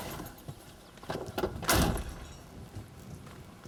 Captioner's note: door slams